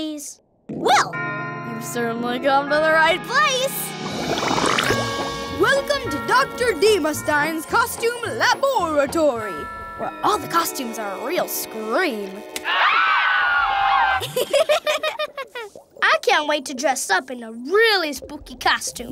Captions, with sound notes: Well, you've certainly come to the right place! Welcome to Dr. Deemastein's costume laboratory, where all the costumes are a real scream. [screaming] [laughing] I can't wait to dress up in a really spooky costume.